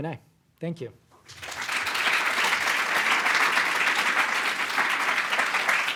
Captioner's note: applause